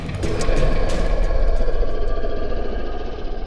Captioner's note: growling